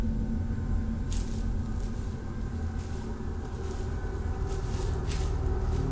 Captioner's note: footsteps rustling